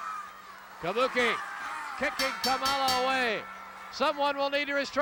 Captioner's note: bell ringing